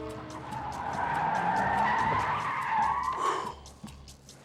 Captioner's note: tires squealing